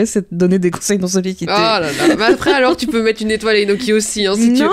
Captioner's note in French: rires